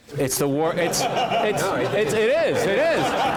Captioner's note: laugh